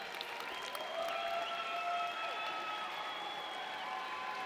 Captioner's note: audience members cheering